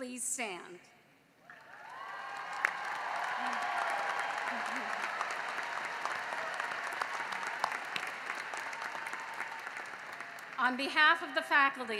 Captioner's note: cheering and applause